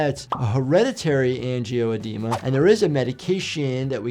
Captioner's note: audio whooshes; soft upbeat music plays